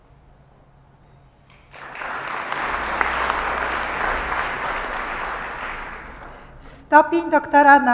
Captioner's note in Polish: oklaski